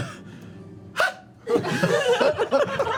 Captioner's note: high-pitched grunt; laughter